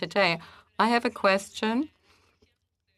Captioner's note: speaking French